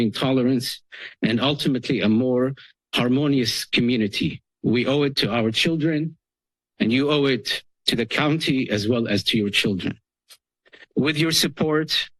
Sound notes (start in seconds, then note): none